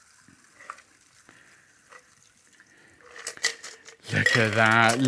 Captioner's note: cocktail pours